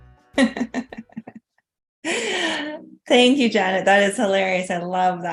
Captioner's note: laughs